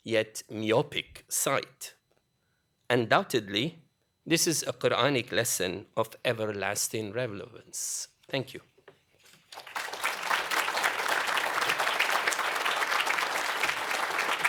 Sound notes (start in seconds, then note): 9.4 applause